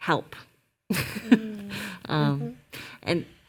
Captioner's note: laughs